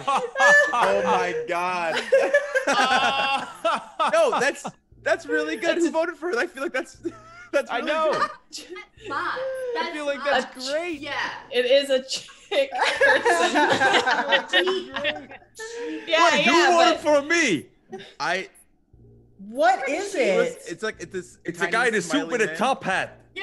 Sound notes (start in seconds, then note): 8.3 laugh; 13.7 laugh